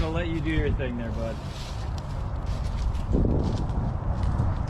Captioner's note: Traffic